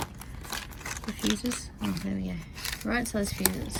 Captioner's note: fuses rattle inside packet